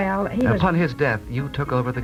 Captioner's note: voiceover